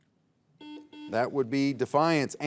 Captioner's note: buzzer beeps